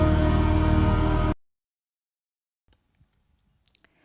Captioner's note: music stops